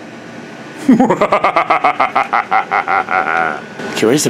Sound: evil laugh

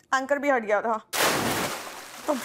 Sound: water splashes

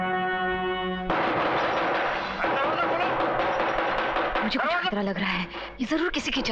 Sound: door knocks

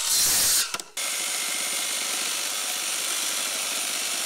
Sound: saw whirring

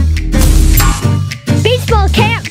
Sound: loud clank

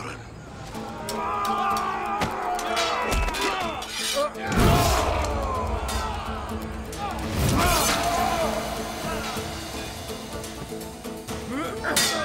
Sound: Savaş sesleri

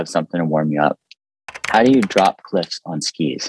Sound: keyboard clicking

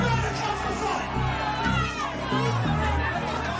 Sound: crowd cheering

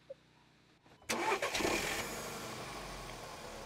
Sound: engine starts

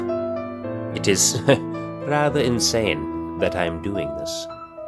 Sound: heh

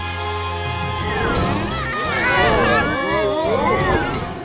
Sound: screaming

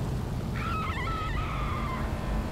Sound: more screaming

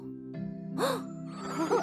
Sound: gasps

